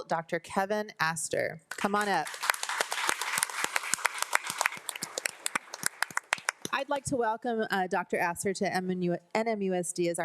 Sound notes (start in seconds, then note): 1.8 board of trustees and attendees applauding